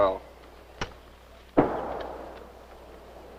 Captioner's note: explosion